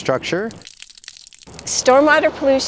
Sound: water dripping

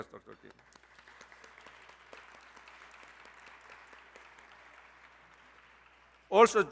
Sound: applause

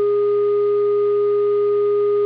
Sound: phone tone

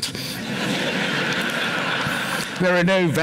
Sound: laughter

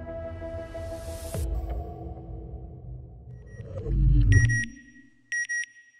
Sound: beeping

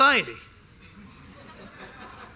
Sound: laughter

